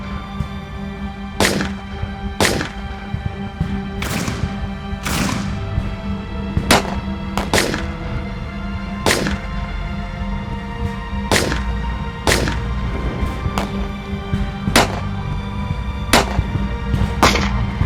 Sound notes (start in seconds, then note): 7.2 tense music continues; 11.2 gunshot cracking continues